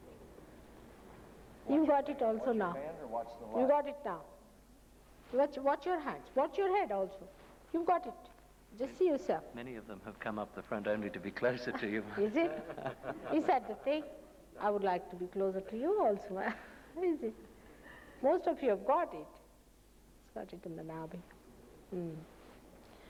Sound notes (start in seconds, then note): 19.3 mother laughs